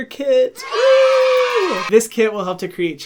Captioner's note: kids cheering